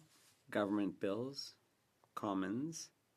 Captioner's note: speaking French